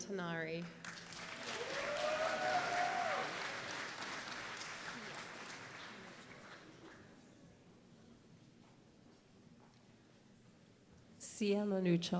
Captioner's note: applause